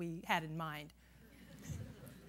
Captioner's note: laughter